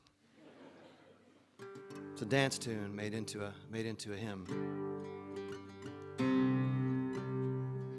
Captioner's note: laughter